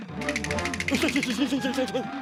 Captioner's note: nervous stammering